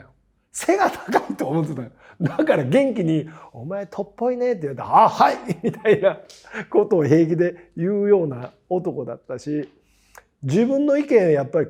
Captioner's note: laugh